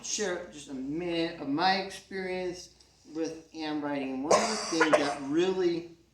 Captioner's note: someone in the crowd coughs